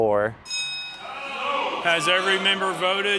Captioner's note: bell dinging